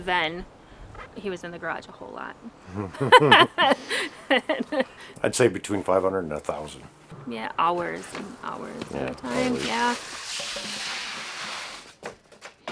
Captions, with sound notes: other than, he was in the garage a whole lot. (general laughter) - I'd say between 500 and a thousand. - Hours, and hours.